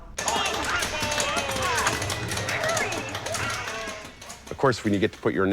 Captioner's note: chaotic game sounds